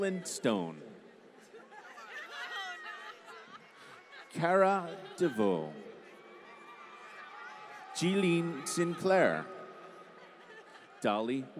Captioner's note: applause